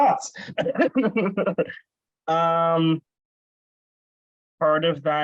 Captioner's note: laughs